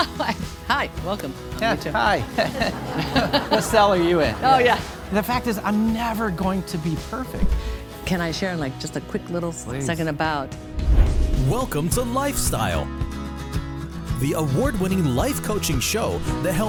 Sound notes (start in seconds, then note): 1.6 laughs; 1.6 audience laughing; 10.7 logo whooshing sound; 11.1 bright upbeat music